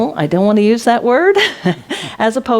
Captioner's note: laughs